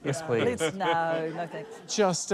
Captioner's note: chuckles